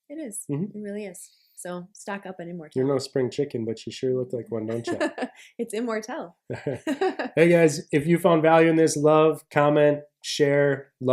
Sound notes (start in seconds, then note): 4.6 laughs; 6.5 both laugh